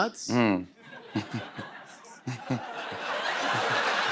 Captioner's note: laughter